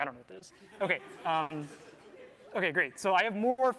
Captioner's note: laughter